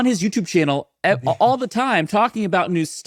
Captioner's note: chuckling